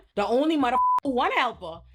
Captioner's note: beep